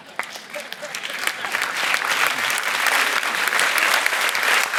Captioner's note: audience laughs; audience applauds